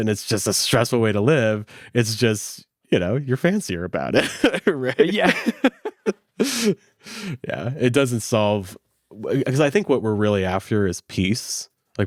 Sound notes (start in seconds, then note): 4.1 laughs